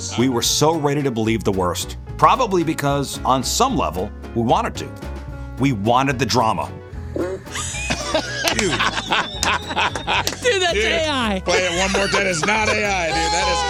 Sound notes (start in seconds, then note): 7.9 squeaking; 9.3 laughing